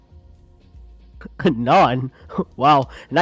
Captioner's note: chuckles